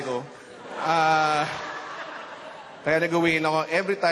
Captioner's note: laughter